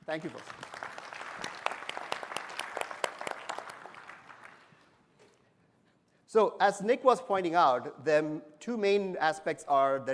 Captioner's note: applause